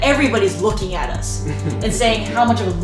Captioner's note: laughter